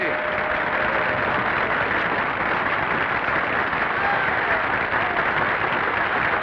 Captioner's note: audience applauding; audience cheering